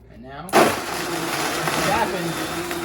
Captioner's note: blender whirs